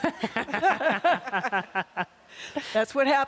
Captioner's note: laughter